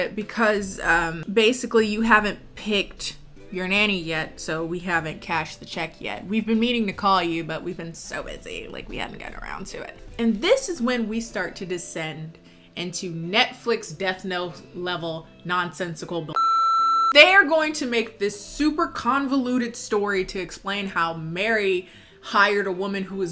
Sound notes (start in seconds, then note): 16.3 beep